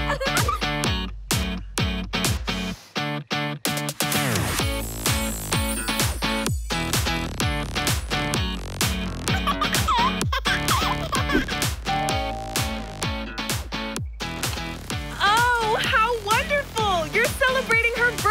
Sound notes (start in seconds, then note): 0.0 laughs; 9.2 laughs; 11.9 doorbell rings